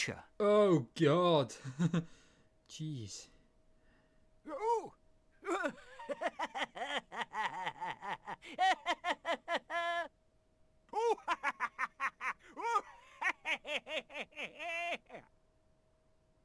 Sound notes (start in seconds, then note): 5.4 doctor laughing whilst being tickled; 10.9 butcher laughing whilst being tickled